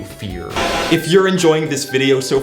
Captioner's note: static